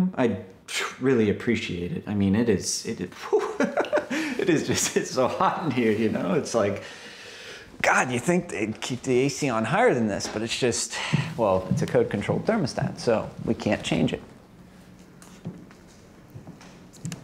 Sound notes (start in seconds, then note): 3.2 laughs; 11.0 Dani's footsteps walking away; 14.8 Dani's returning footsteps